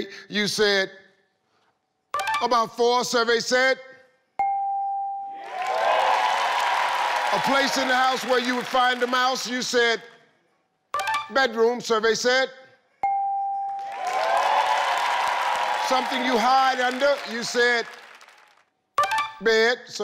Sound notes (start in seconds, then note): 4.4 tone dinging; 5.4 audience clapping and cheering; 13.0 tone dinging; 13.7 audience clapping and cheering